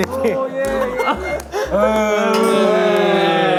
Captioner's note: fumbling